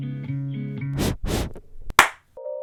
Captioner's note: blows on the mic twice; clap